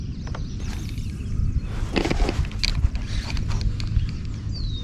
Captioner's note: rod whooshing